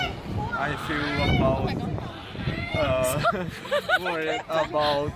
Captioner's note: distracted background human crows